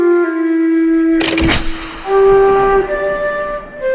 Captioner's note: sad flute music; musket shot; sad flute music